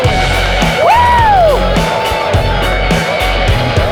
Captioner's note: onlookers cheering